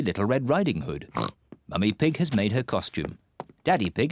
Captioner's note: oinks